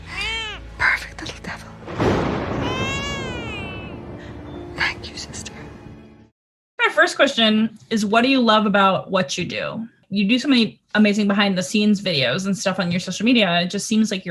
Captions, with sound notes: Perfect little devil. (thunder rumbles) (baby crying) Thank you sister. - My first question is what do you love about what you do? You do so many amazing behind the scenes videos and stuff on your social media.